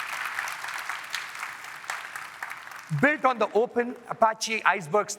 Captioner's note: applause